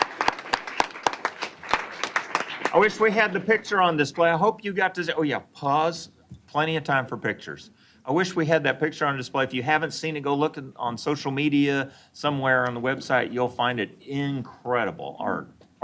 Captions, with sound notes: >> [ Applause ]. >> I wish we had the picture on display. I hope you got to -- oh, yeah, pause. Plenty of time for pictures. I wish we had that picture on display. If you haven't seen it, go look on social media, somewhere on the website, you'll find it incredible art